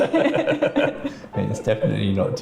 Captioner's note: laughing